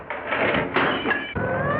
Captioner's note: glass shattering; sirens wailing